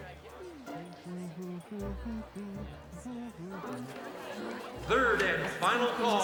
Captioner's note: curious music; Spencer humming